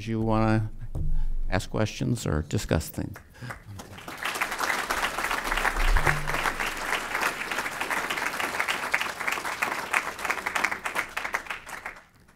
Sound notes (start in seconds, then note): 5.7 applause